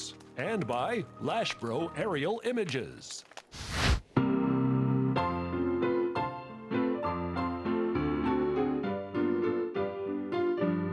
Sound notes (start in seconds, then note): 3.5 air whooshing; 4.6 ragtime piano music